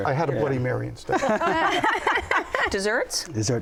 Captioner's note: laughter